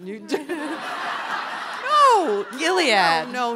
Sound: audience laughing

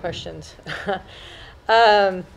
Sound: laughter

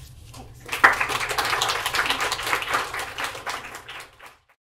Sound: audience claps

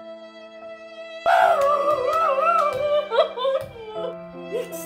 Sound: sobs

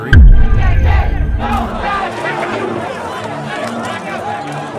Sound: crowd yelling

